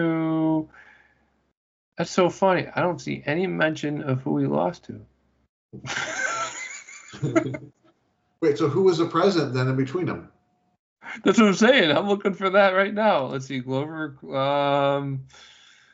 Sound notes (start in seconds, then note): 5.8 laughing